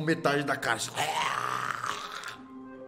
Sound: growls

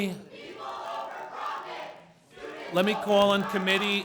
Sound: student chanting

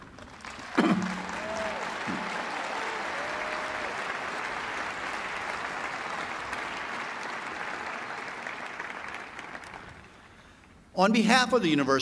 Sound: applause

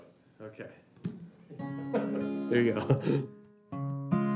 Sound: laughter

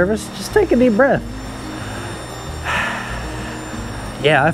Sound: deeply breaths

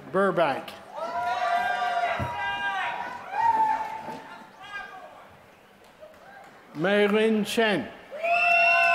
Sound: applause

